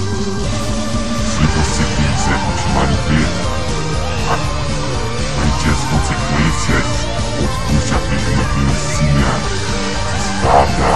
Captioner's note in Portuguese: huhahahaha